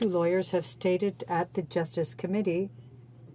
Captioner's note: speaking in French